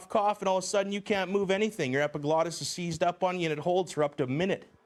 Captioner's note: voiceover